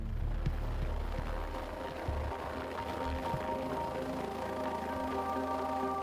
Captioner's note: pensive music; helicopter whirring